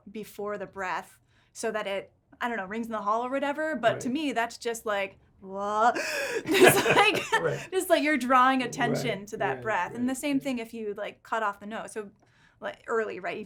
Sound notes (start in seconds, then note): 6.0 sharp gasping noise